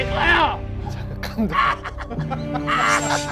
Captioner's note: creepy laughter